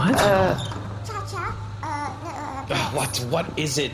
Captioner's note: door opens